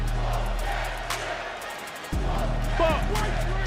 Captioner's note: crowd "whoop that trick"